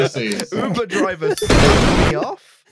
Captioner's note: laughter; explosion